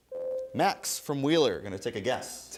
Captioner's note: ding